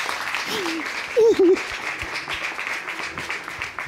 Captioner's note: sobbing